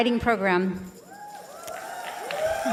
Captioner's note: applause and cheers